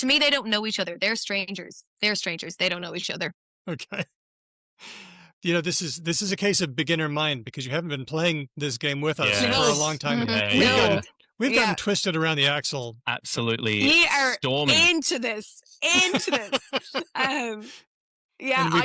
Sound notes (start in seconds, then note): 3.6 chuckles; 15.8 laughs